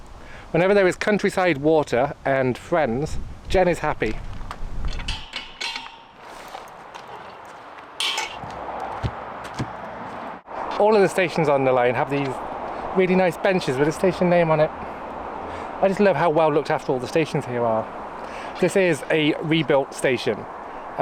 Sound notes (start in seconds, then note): 4.9 footsteps